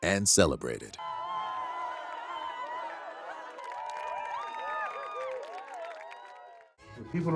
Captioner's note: crowd cheers